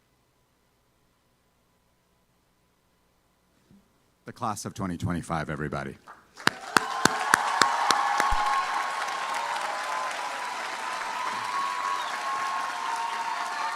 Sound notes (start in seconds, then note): 6.4 applause